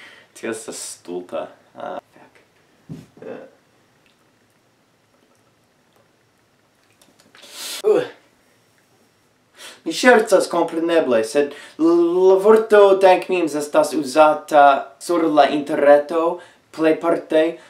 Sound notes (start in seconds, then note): 1.9 whispers